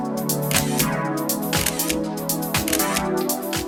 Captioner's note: camera shutter clicks